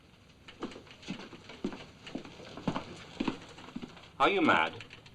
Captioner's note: indignant footsteps